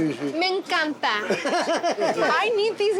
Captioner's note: laughs